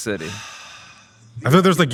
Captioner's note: sighing